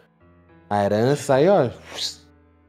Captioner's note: whistle